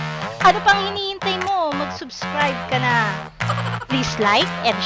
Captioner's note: laughing